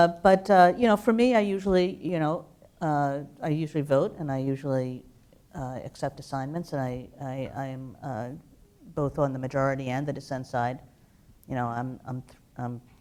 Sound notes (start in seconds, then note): none